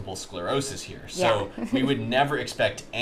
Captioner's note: chuckles